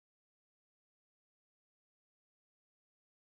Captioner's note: none